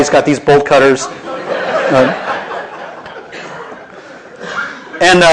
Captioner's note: laughter